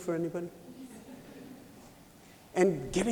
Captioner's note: laughter